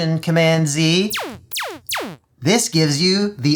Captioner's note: laser zap sounds